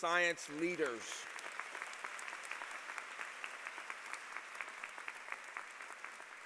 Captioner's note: applause